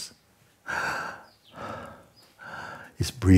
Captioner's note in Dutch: ademt in en uit